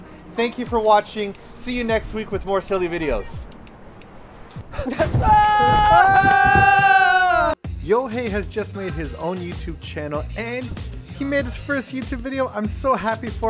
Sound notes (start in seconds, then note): 4.8 both play-screaming